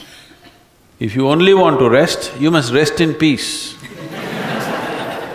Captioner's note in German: Gelächer